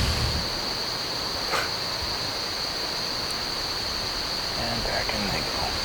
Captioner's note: insects